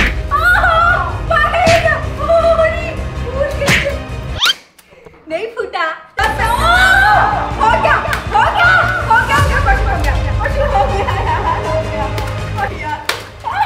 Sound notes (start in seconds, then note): 0.4 screams; 6.4 screams again